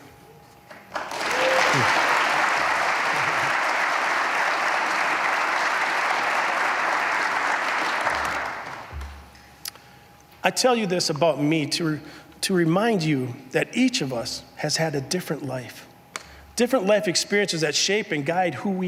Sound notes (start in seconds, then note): 2.7 applause